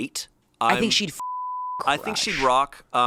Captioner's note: beep